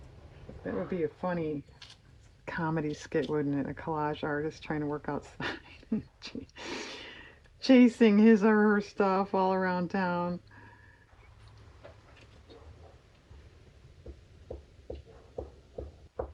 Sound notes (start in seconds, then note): 5.4 laughs